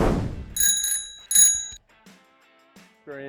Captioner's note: bicycle bell ringing